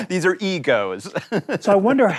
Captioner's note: laughs